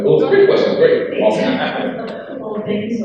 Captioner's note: crowd laughs